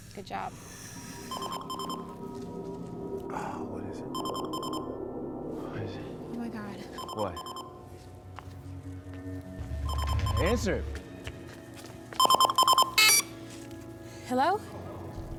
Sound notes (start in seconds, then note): 1.3 alarm beeps; 4.1 alarm beeps; 12.2 beeping